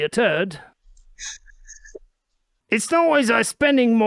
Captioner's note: chuckles